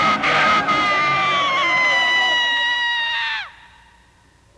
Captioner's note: screaming sound